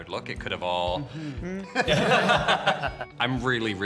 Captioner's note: all chuckling